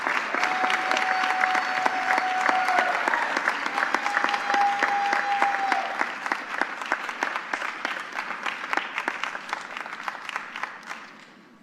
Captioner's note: applause